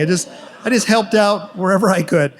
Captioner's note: audience laughs